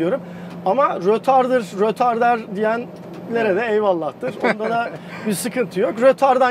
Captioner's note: laughing